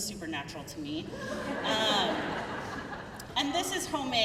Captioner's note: crowd laughing